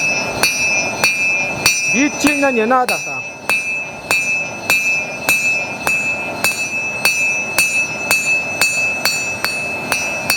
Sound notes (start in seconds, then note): 5.0 bell